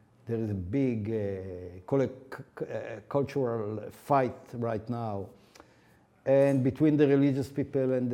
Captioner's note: none